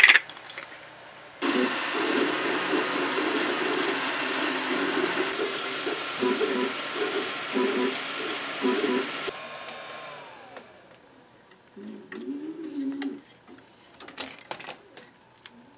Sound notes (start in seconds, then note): 1.4 vroooooooooooom, beep, beep, beep